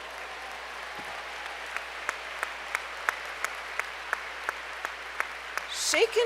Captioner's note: applause